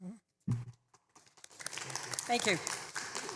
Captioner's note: applause